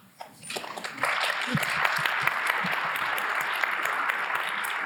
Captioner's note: audience applauding